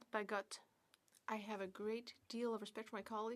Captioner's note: speaking French